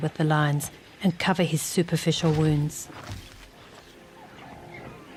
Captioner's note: animals calling